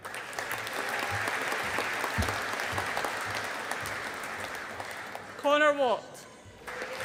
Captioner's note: audience applauding